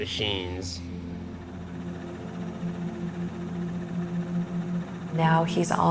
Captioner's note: ventilator humming